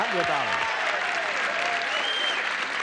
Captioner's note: audience cheering